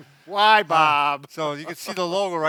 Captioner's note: laughs